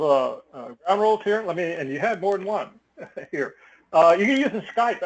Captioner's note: laugh